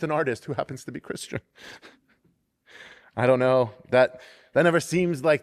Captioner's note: laughter